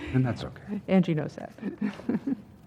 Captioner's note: laugh